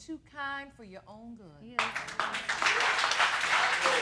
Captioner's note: audience applauding